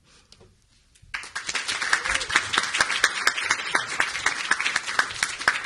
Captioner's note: audience applauding